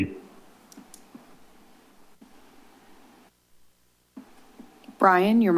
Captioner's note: silence